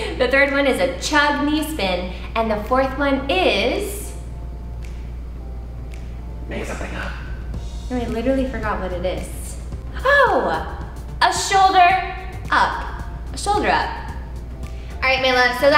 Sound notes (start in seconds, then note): 6.6 man speaks faintly